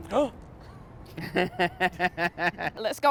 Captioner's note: gasps and laughter